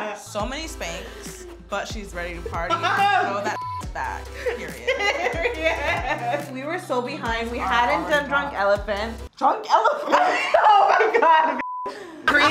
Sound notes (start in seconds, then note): 3.4 beep; 4.3 both laughing; 10.0 laughing; 11.6 beep